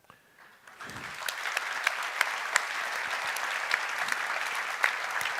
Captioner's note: applause